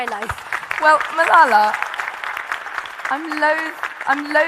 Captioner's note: audience applauding